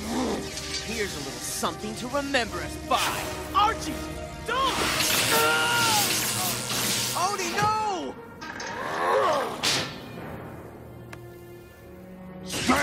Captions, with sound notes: Here's a little something to remember us by. Archie, don't! (Screaming) Odie, no. (Grunting)